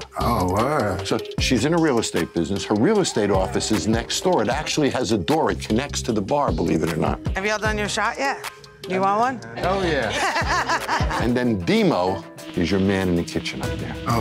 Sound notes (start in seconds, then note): 9.5 group laughing